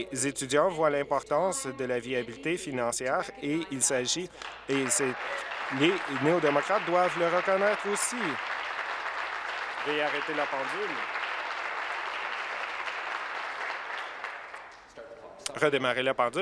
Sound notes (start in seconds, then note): 8.5 applause